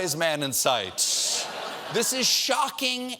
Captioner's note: laughter